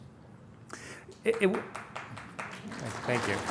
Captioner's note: applause